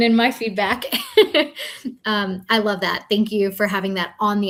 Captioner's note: chuckles